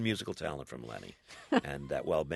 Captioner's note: soundbite of laughter